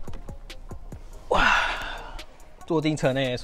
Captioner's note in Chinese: 老apek闪到腰式的叫声